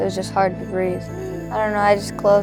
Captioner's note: gasping